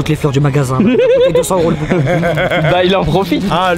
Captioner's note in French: rires